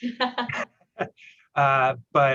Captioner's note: laughter